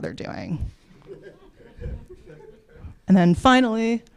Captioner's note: laughter